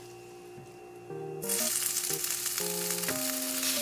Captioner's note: sizzle